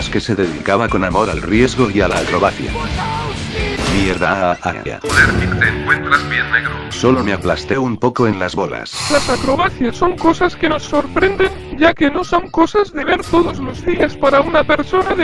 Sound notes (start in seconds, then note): 4.2 smash sound